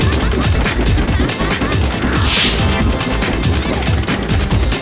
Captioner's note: laughter; electronica music